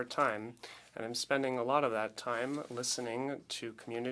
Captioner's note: speaking French